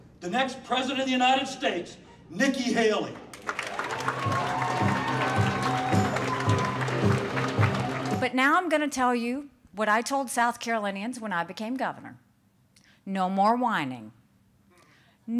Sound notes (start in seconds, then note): 3.3 cheers and applause